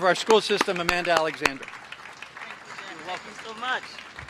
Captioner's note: applause